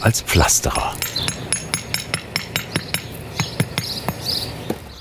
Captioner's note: metallic hammering, birds chirping